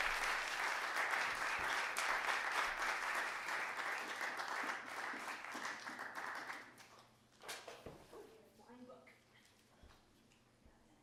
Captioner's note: applause